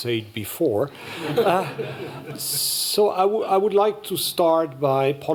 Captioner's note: laughter